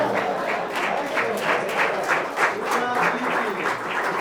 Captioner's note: clapping